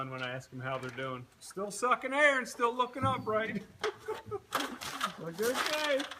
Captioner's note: laughs